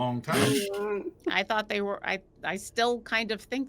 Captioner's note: chuckles